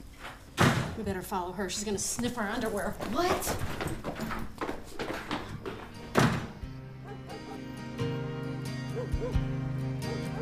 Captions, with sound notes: - WE BETTER FOLLOW HER. SHE'S GONNA SNIFF OUR UNDERWEAR. - WHAT? [dog barking]